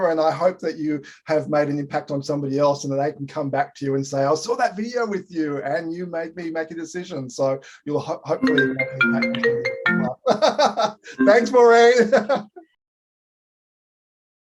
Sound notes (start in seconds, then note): 8.4 phone rings; 10.0 chuckles